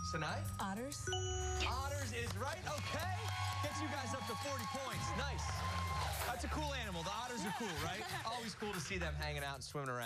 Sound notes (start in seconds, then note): 7.8 cheers and applause